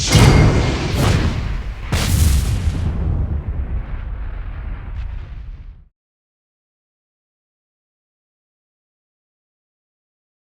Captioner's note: whooshing sounds